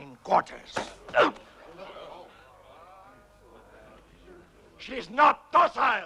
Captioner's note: chieftain grunts